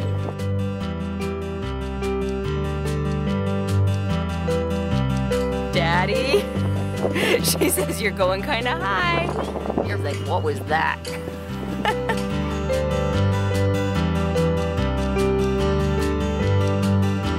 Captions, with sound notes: (gentle piano music) Daddy, she says you're goin' kinda high. What was that? (laughing) (gentle piano music)